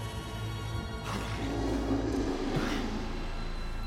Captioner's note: roar